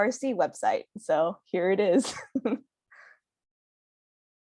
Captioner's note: laughs